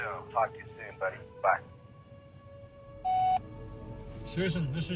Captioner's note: phone beeps